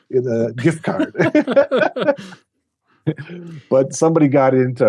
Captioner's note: both laughing